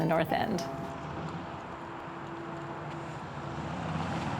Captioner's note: traffic whooshing